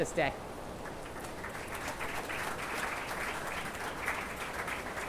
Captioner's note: attendees applauding